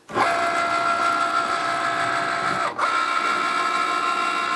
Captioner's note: machine whirring